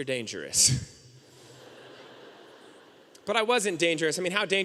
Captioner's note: audience laughing